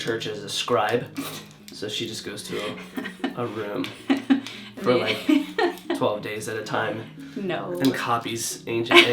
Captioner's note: laughs